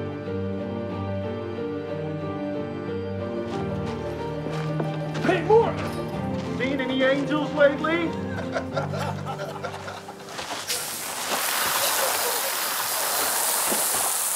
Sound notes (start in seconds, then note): 8.1 laughing